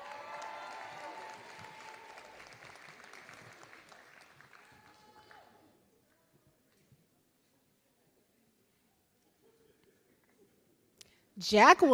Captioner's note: applause